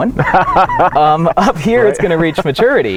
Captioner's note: laughing